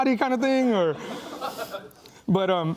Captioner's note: laughing